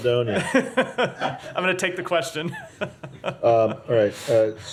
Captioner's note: laughter